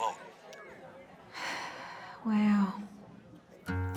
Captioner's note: sigh